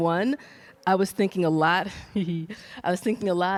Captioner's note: laughs